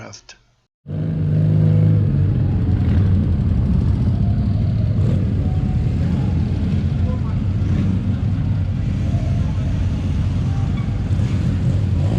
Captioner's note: motorcycle noise